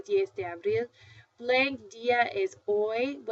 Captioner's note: foreign language